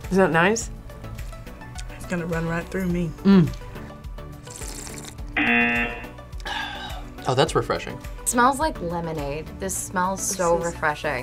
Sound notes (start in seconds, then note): 4.4 slurps; 5.4 buzzer